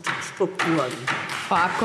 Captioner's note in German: Beifall DIE LINKE